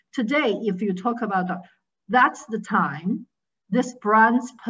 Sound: none

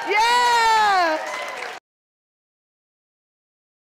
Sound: audience claps

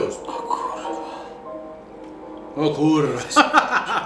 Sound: foreign language; laugh

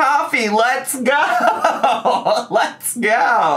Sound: laughs

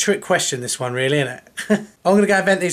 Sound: laughs

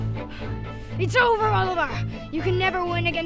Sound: gasp

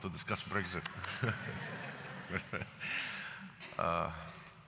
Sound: laughter

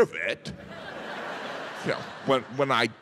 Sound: audience laughing

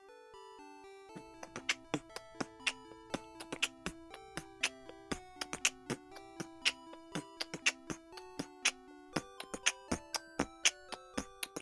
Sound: beatboxing

